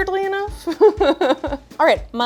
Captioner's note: laughing